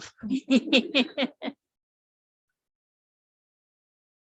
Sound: laughs

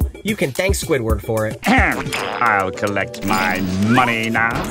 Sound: clearing throat

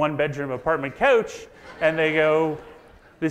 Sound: audience laughs

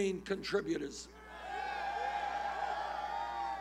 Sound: cheers

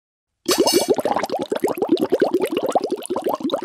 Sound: bubbling

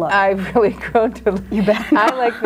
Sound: laughs

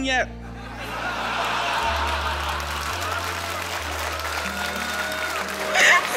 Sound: laughter, applause

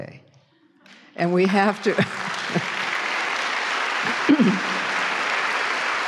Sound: applause

